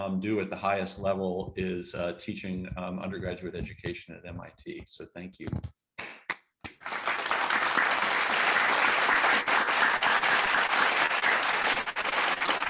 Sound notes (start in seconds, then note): 6.6 audience clapping